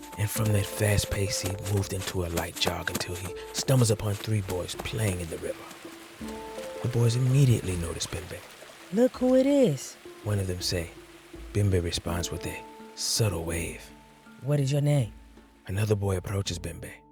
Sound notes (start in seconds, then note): 1.8 footsteps; 5.8 water flowing